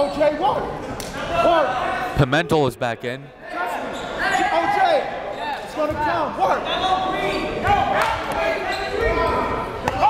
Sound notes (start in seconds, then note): 5.3 fans and coaches yelling